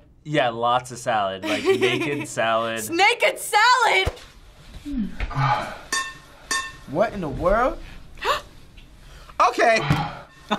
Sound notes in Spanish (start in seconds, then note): 5.0 hombre gemidos 1; 6.5 Cuenco de cuchara ruido metálico; 7.9 jadeo; 9.6 hombre gemidos 1